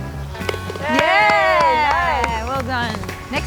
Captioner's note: all cheer